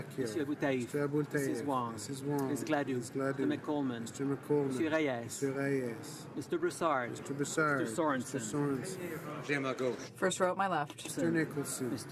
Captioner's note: speaking French